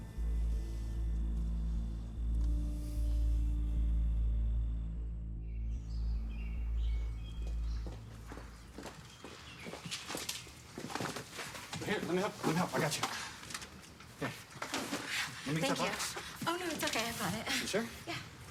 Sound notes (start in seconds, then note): 0.2 soft tense music; 5.4 birds chirping